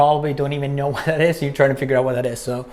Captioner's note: laughs